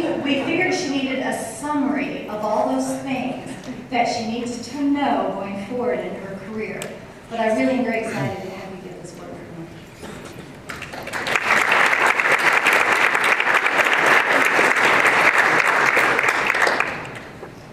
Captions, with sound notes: We figured she needed a summary of all those things that she needs to know going forward in her career. But I really am very excited to have you get this award from me. [applause]